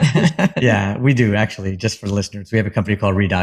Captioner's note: laugh